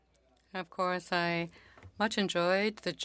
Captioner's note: speaking French